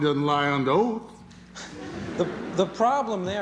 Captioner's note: laughter